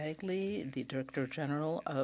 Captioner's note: speaking French